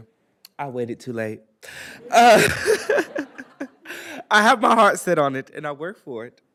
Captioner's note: laughs